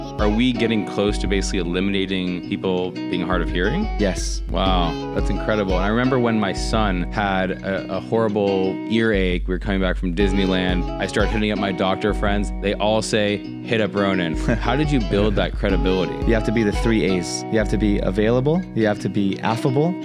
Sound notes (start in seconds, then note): 14.2 laughs